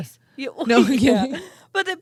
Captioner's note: both laughing